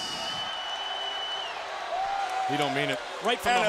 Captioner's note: crowd cheering